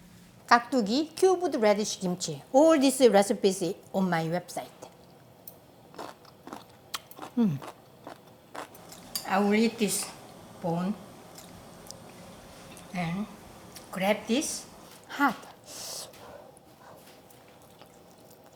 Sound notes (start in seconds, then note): 8.5 crunching; 15.6 blows air